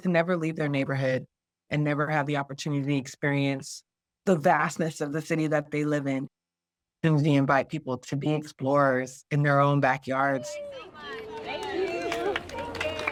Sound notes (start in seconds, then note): 10.3 crowd